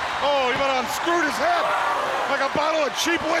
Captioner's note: wrestler screaming